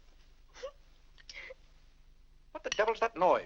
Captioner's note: Annie weeps